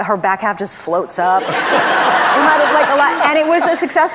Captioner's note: audience laughs